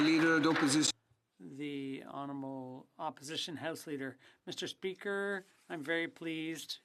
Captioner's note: applause